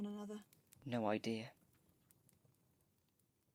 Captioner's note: fire fades